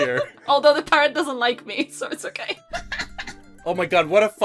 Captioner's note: laughs